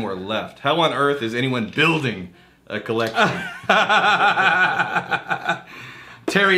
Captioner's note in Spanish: Riéndose